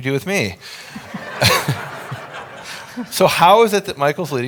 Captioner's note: audience laughs